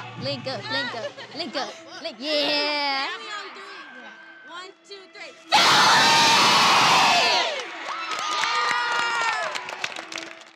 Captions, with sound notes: Link up, link up. Link up, Link- yeah! Family on three. One, two, three [Yelling] Family! Yeah!